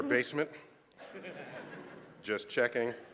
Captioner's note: laughter